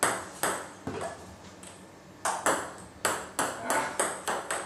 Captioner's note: ball ping pong hitting continues